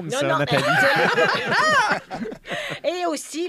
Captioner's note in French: rires